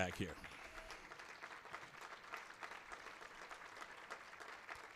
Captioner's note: applause